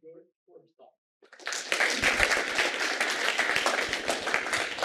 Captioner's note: applause